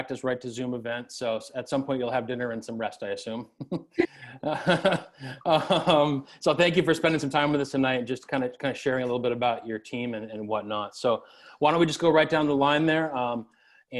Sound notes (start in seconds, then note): 3.5 laughs